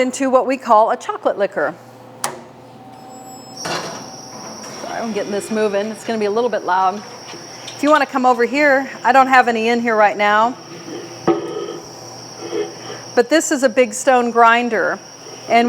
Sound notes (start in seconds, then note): 2.2 switch clicks; 3.7 machine beeps; 3.7 metal clangs; 10.3 grinder clanging